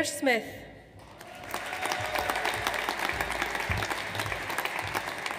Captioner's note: audience applauds